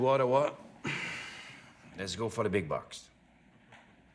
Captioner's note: sighs